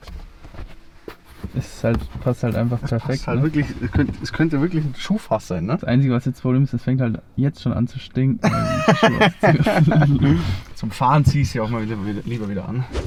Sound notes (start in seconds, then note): 8.4 laughter